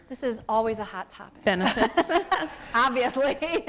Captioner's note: laughs